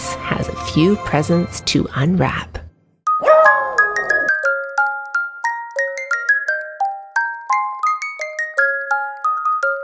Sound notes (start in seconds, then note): 3.2 howl